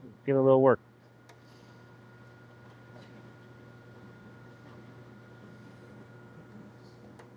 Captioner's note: silence